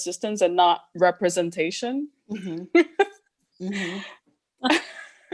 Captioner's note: laughs